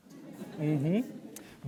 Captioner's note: attendees laughing